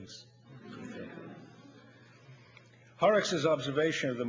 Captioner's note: audience laughs